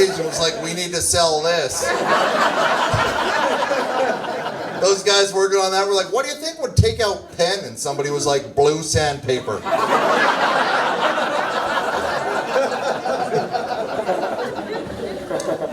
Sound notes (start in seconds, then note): 1.4 audience laughs; 12.2 audience laughs